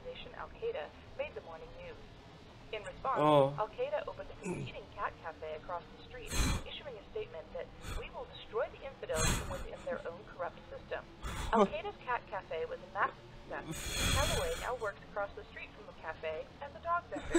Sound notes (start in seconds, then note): 14.0 buzzer